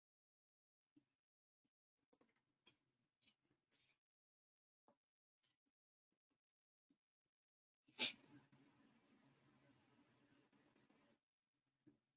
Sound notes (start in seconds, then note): 8.0 silence